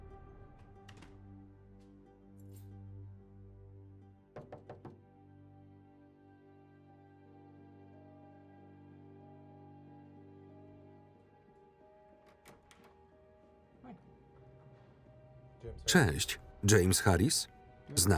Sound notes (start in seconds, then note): 4.3 knock on door